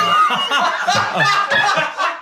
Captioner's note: laughing